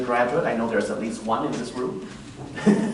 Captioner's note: laughs